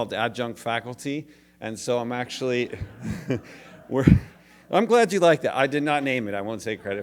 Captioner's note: laughter